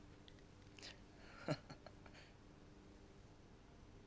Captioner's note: chuckles